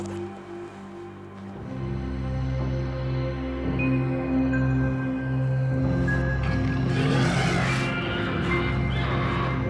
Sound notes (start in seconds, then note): 1.8 suspenseful music; 6.3 roars